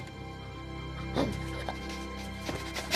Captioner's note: sniffing